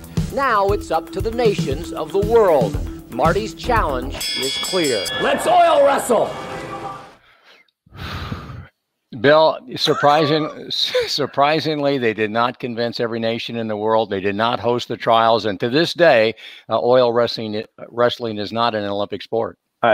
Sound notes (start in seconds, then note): 3.4 bell ringing